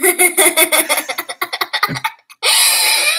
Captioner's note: laughter